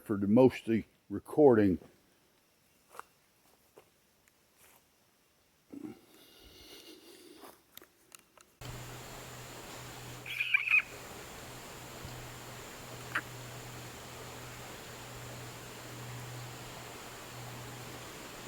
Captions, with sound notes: for the most of the recording. (water purling) (bird chirping)